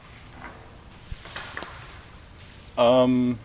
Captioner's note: spooky ominous clattering and rustling